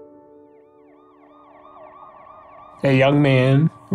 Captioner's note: police Sirens